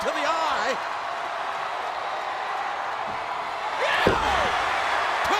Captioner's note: audience cheering